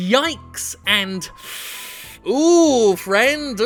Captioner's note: inhaling deeply